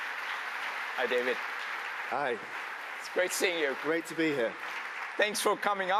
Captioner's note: applause